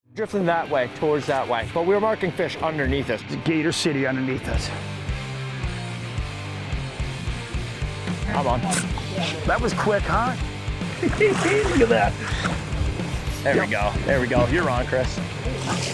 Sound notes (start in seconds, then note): 0.0 upbeat music begins; 5.2 upbeat music continues; 10.8 laughs